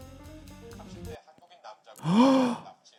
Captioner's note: live TV sound comes out; gasps in surprise